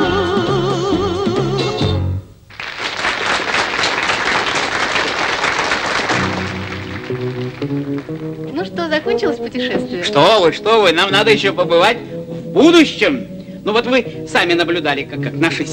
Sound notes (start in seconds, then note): 2.4 applause